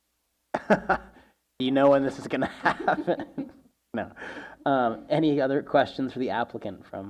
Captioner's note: laughing